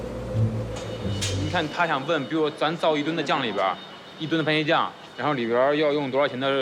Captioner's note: speaking in foreign language